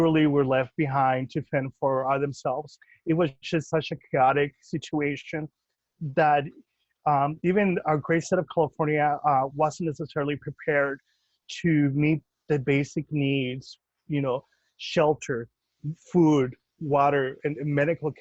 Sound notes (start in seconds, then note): none